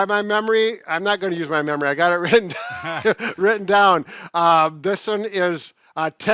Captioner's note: laughs